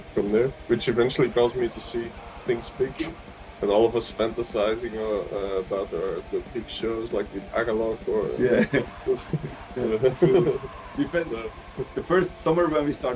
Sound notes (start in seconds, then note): 8.4 Смех